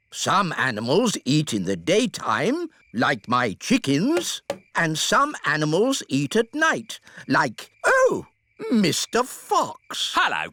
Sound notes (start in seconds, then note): none